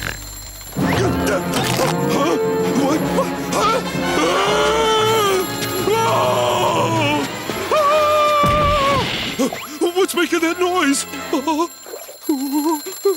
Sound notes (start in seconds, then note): 2.7 grunting; 3.8 groaning; 7.7 screaming; 11.2 whimpering, ringing